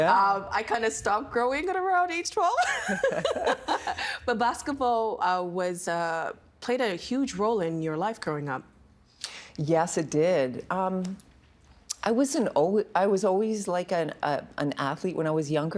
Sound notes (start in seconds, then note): 2.6 both laughing